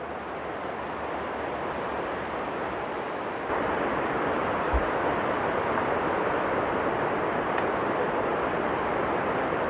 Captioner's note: sound of waterfalls